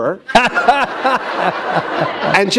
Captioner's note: laughter